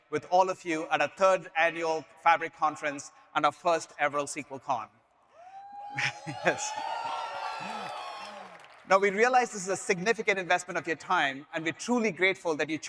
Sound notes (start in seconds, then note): 5.5 audience members cheer; 5.9 chuckles